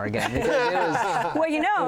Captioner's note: laughter